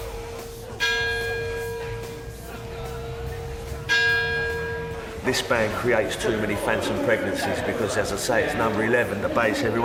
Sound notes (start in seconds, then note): 0.5 bell dings